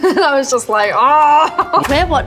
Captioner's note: Millie groans